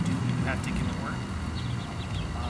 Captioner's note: birds chirping